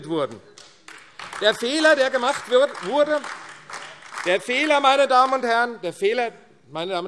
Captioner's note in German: Beifall AfD